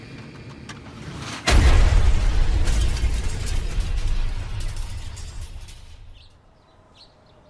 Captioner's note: explosion; faint sound of a fire truck